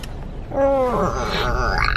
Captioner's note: groans